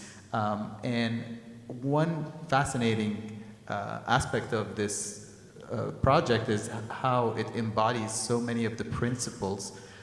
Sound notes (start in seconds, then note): none